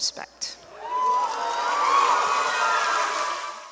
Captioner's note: cheers